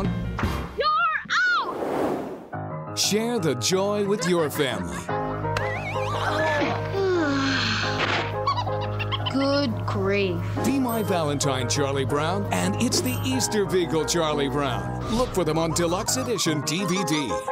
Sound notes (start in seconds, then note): 5.1 charlie brown sighs; 8.4 giggling